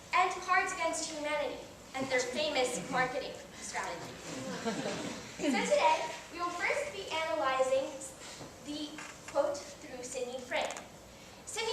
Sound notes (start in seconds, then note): 4.3 audience laughs